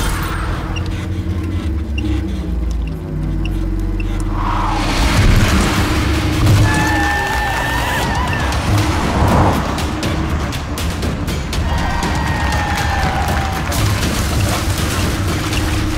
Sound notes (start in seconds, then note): 6.9 crowd cheering; 11.5 cheering